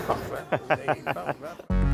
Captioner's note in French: rire